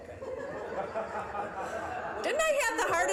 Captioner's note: audience laughing